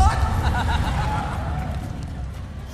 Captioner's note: crowd and judges laughing